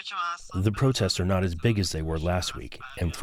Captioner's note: through translator